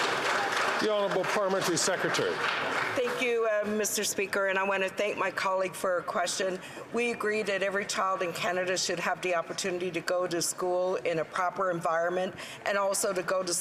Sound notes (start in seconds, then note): 3.7 some Applause